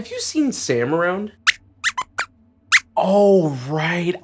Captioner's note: squeaks squeaks